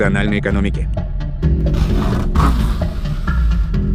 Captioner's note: vacuum cleaner